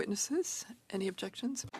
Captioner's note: speaking in French